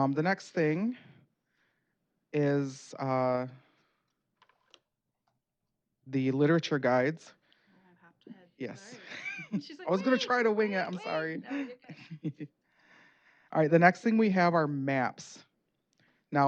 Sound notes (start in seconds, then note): 11.2 laughter